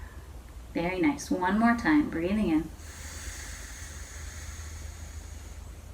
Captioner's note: inhales